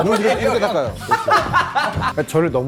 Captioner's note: laughing